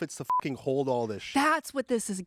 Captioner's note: beep